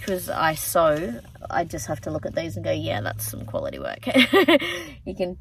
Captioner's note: chuckles